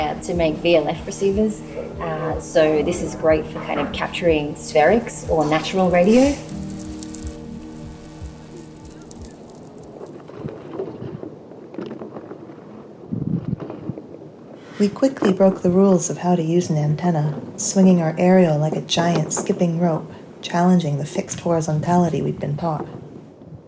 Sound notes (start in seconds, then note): 9.8 replaced by wind, a wire tumbling onto the decking